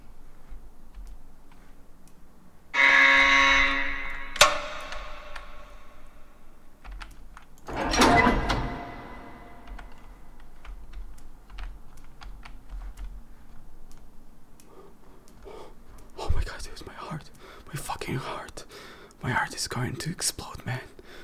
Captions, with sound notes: *loud horn over speakers in building* *door unlocks* Oh my god, there's my heart. My fucking heart. My heart is going to explode, man.